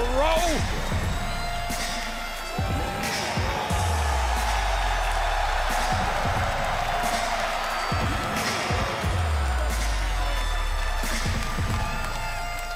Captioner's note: crowd cheering